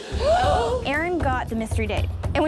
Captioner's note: contestants gasping